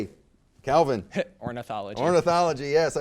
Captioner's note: laughs